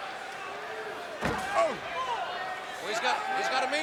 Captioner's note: head thuds